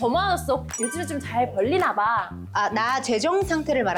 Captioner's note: randomly bringing up money sound effect